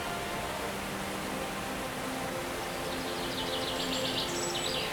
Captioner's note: birds chirping